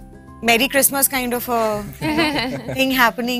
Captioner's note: giggles